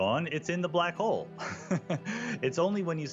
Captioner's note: laughs